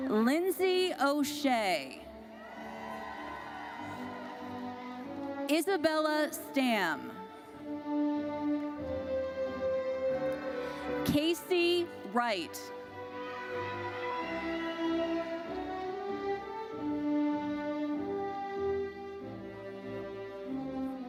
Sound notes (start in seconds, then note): 2.4 audience cheers; 14.2 audience cheers